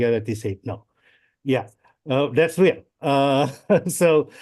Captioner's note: laughs